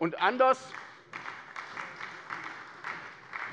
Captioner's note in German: Beifall bei der SPD